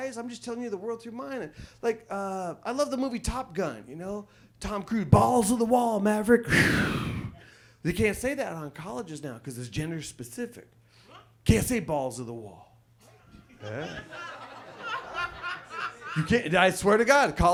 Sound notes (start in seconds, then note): 13.6 audience laughs